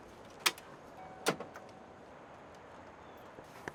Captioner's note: car beeping